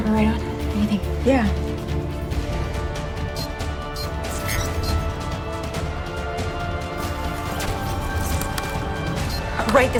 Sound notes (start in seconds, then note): 3.9 armband beeping; 6.3 dramatic music plays